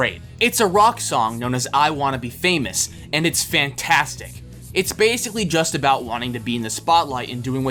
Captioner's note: none